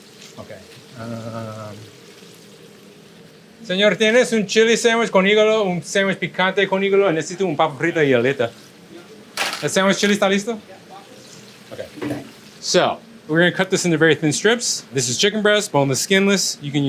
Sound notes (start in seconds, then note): 3.7 speaks in foreign language; 8.6 crew speaks in foreign language; 9.8 speaks in foreign language; 10.9 crew speaks in foreign language